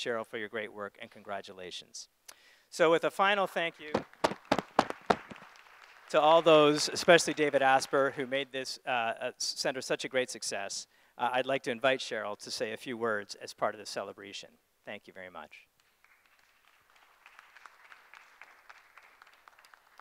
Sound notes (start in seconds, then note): 3.8 group applauding; 15.8 group applauding